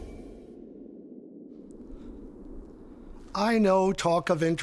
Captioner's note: discordant music; mysterious music; wind blowing